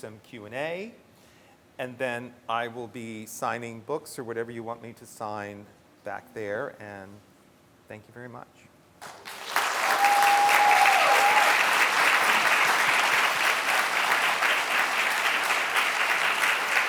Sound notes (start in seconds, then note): 12.3 audience applauds